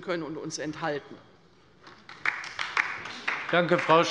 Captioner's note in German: Beifall bei der LINKEN